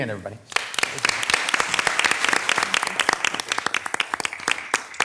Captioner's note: audience applauding